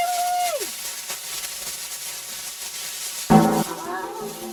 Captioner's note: radio static